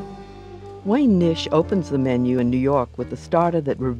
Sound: upbeat music; voiceover

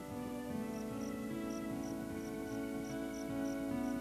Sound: crickets chirping

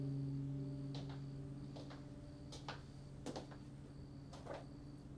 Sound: steps approaching

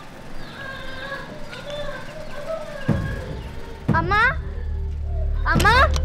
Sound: mother shouting

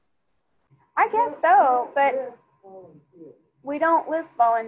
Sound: student speaking faintly

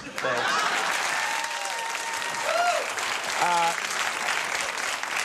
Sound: audience clapping

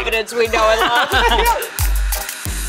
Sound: everyone laughs. cries a little

